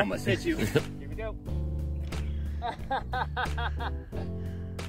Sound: laughs

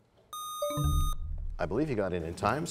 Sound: buzzer sound; bell chimes, time expires

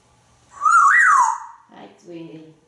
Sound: whistling

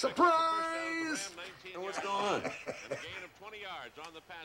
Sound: chuckles

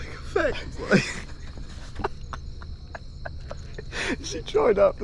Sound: both laugh

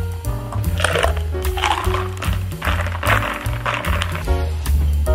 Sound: ice clatters

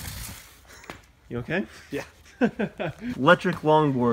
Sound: laughs

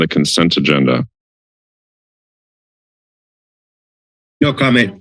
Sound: silence

